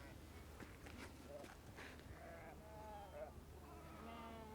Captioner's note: distant Animal Noises